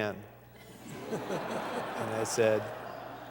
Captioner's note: laughter